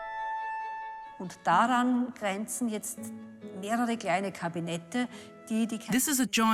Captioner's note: speaks in foreign language